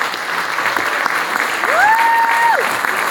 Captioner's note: applause